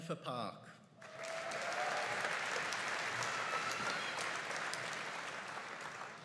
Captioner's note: audience cheering and applauding